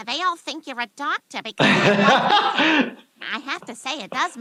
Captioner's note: laughs